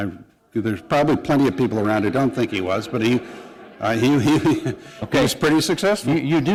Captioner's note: laughter